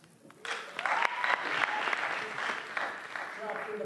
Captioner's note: applause